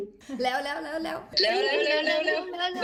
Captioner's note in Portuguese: risos